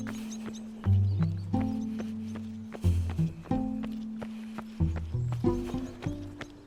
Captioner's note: running footsteps